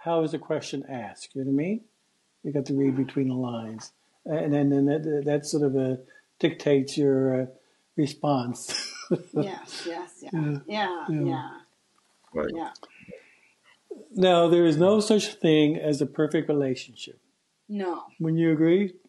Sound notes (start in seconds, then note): 8.0 chuckles